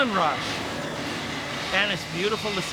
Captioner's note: flames blowing